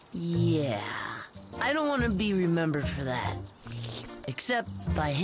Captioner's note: slurp!